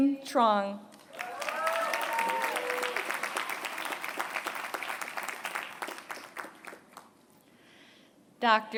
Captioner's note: applause